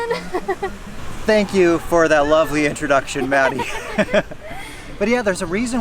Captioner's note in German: Lachen; Lacht